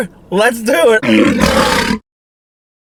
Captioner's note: lion roars